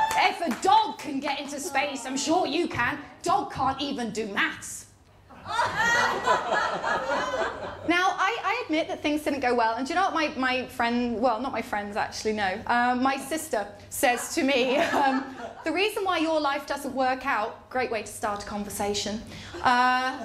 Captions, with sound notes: ‘If a dog can get into space, I’m sure you can.’ ‘Dogs can’t even do maths.’ [LAUGHTER] Now, I admit that things didn’t go well, and do you know what my friends… Well, not my friends, actually, no. My sister says to me, ‘The reason why your life doesn't work out…’ Great way to start a conversation.